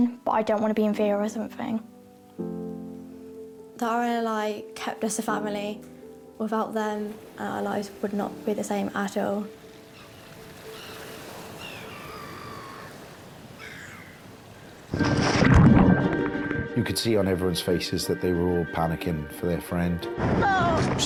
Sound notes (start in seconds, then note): 11.1 gulls crying; 11.1 waves surge onto beach; 15.0 dramatic music; 15.1 water splashes; 20.4 woman cries out